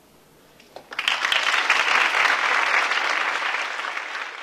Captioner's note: applauding